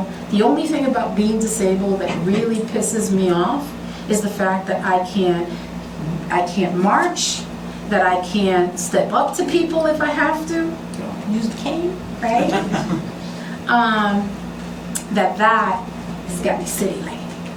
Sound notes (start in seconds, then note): 12.3 laughter